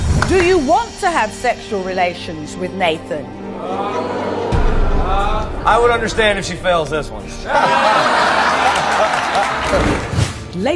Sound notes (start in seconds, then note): 3.4 audience exclaims in disbelief; 7.1 audience laughs